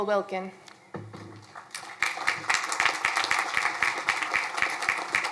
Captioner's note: crowd applauding